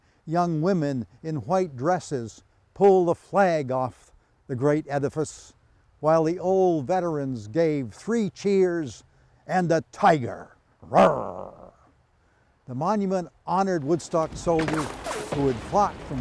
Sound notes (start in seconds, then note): 10.8 growls